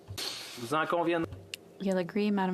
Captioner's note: speaking French